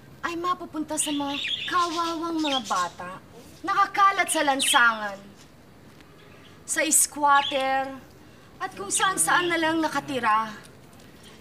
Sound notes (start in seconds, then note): none